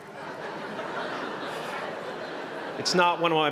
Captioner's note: laughter